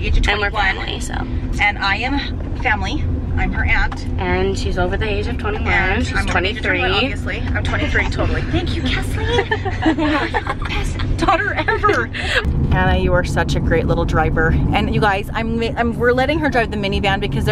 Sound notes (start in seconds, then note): 9.9 laughter